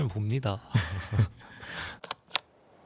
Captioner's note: laughs